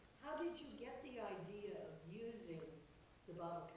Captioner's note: voiceover